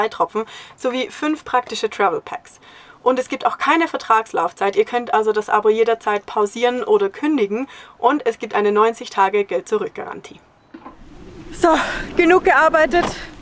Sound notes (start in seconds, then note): none